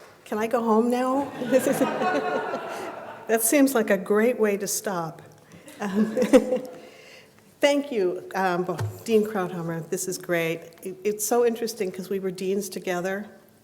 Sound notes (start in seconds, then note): 1.2 laughter; 5.7 laughs